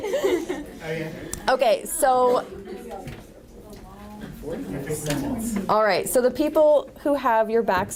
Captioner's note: laughter; audience chatter